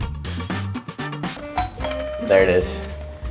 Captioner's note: doorbell rings